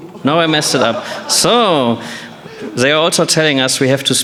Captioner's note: laughter